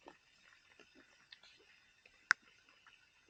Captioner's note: chewing